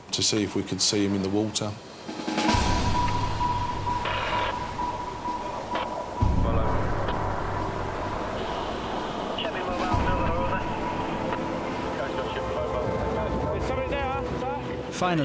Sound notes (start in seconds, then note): 2.1 intense music; 2.6 water trickles; 3.9 radio scratches; 6.2 wind whooshing